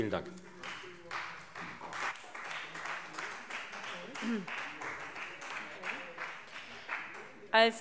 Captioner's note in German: Beifall Freie Demokraten